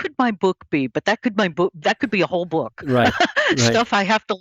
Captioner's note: laughs